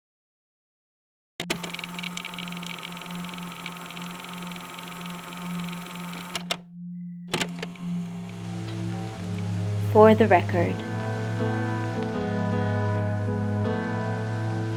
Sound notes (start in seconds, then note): 1.4 tape recorder static and music begins